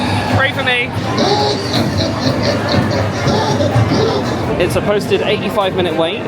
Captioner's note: animatronic character laughs